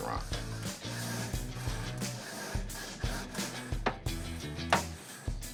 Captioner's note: metal scraping